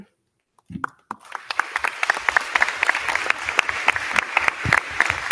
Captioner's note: crowd clapping